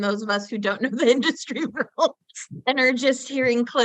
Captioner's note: laughs